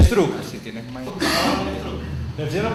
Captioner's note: cough